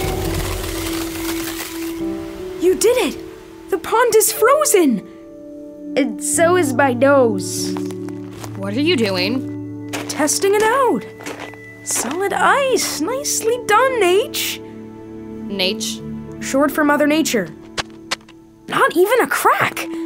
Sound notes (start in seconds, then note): 0.0 cracking noise; 7.6 footsteps